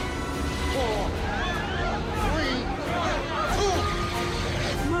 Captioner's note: people yelling